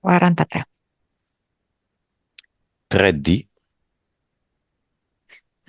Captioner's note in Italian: none